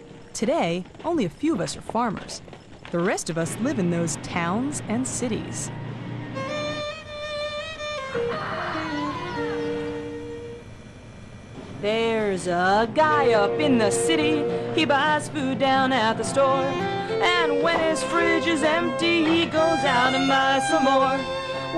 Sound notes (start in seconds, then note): 8.0 rooster crowing; 11.8 singing